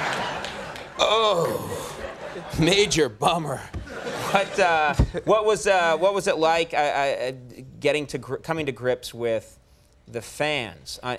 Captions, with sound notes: (Conan groans) Major bummer. What was it like coming to grips with the fans?